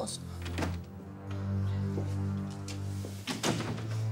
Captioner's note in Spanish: Sonido de puerta al abrir